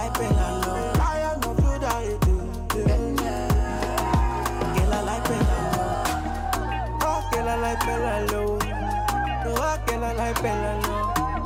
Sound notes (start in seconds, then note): 3.9 cheering